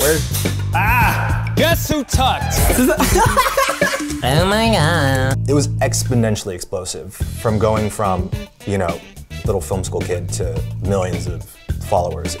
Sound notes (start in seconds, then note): 2.5 laughing